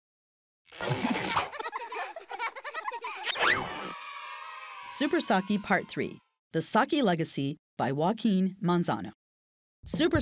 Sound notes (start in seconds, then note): 0.9 children laughing; 3.3 children cheering